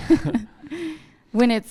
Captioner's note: both laughing